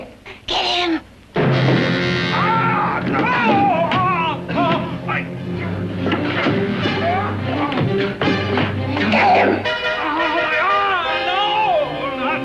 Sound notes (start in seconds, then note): 1.2 frightening music; 2.4 screaming